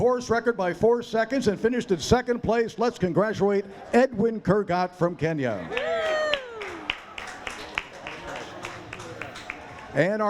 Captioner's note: applause